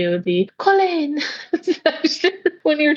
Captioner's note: laughs